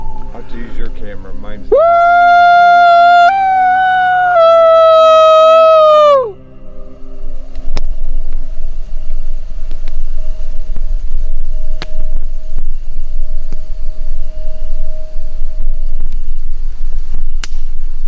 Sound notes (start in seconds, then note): 0.1 eerie music; 7.9 microphone static